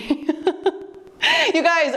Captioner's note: laughing